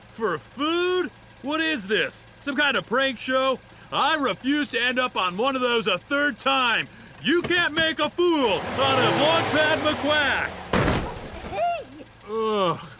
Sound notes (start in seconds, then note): 6.4 shifts gear; 8.3 engine revs; 10.6 crash